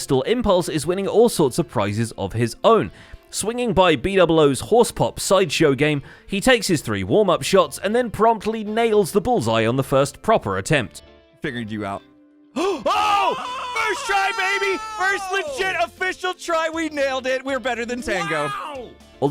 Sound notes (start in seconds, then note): 12.5 screams; 12.6 gasps